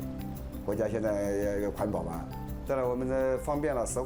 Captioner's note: speaking Chinese